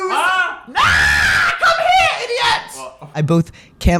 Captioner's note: screams